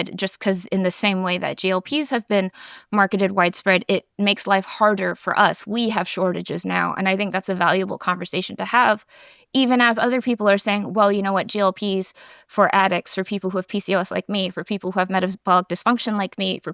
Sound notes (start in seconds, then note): none